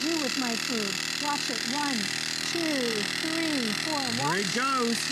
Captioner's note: counting